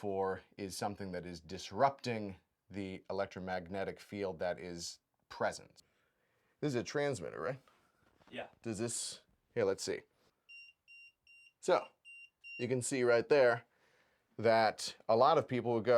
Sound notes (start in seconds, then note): 10.5 transmitter beeping